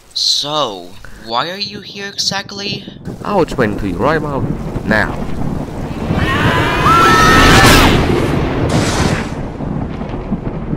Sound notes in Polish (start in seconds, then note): 6.0 Zawodnicy CFTB krzyczą; 7.3 Crash